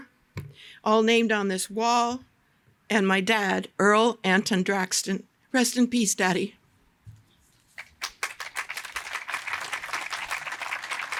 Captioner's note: applause